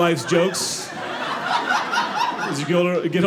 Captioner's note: audience laughing